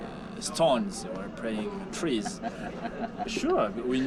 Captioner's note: man laughing